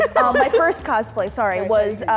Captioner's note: laughter